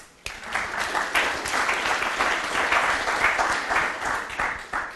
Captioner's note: applause